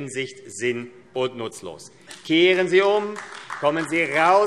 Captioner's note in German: Beifall AfD